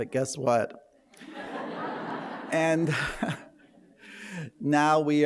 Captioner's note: laughter